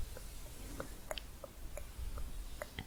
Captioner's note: tongue clicking